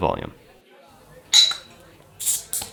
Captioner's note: bottle opener clangs glass